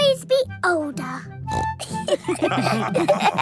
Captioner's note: snorts; all laughing